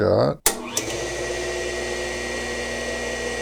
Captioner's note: motor noise